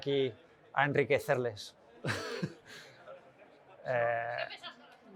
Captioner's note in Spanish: risas